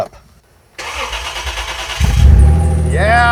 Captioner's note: engine starts